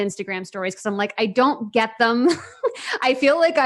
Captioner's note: laughs